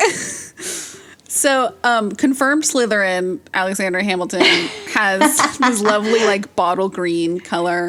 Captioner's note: both laugh